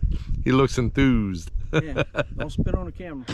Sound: laughing

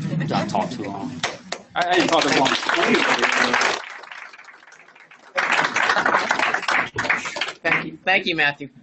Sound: applause; laughs

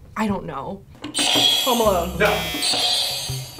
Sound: buzzer rings

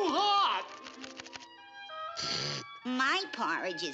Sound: slurps

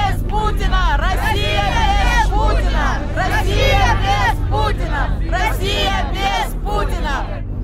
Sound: chanting

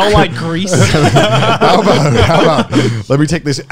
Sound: laughing

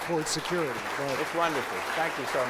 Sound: applause

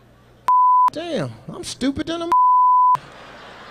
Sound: beep

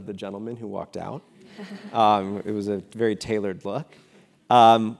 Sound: laugh

